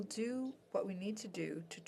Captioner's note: speaking French